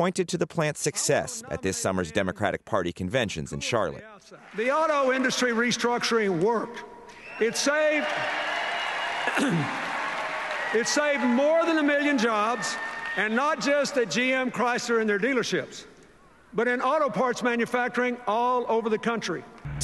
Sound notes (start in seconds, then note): 7.2 cheering and applause